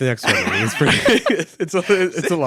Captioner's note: both laugh